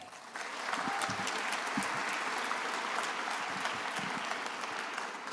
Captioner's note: attendees applauding